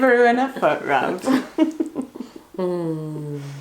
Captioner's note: laughs